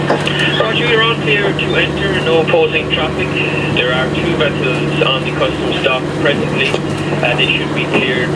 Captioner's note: radio